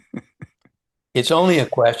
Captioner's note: laughs